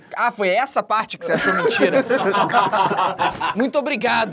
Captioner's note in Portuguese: risadas